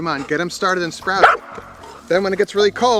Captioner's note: dog barking